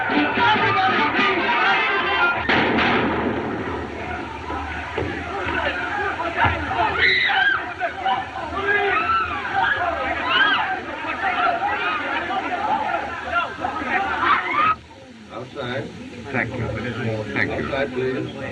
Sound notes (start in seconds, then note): 2.4 gunshots; 6.8 clamoring; 6.8 woman Screams